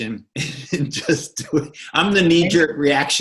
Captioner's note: chuckling